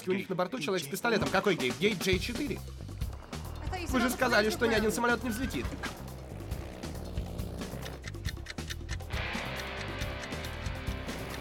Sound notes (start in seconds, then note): 5.7 tires reeching; 7.2 engine roaring; 7.6 clock cking